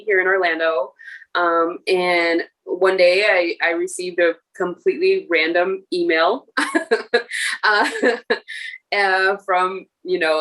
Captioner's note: laughter